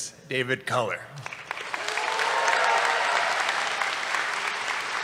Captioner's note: applause